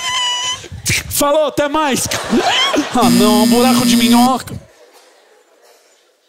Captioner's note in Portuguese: campainha